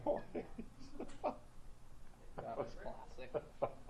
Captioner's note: laughs